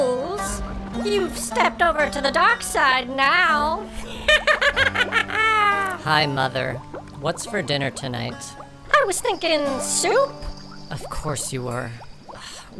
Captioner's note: cackles